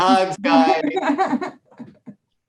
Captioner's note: laughs